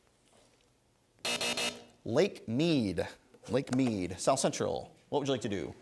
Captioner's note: three buzzes